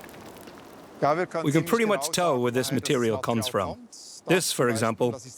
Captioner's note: in German